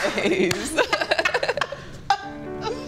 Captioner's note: both laughing; sentimental music